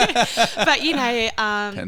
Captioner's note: laughing